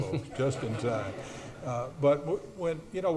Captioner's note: audience laughs